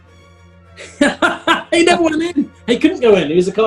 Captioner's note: laughing